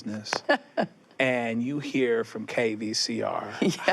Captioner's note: laughs